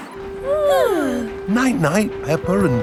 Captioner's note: both yawning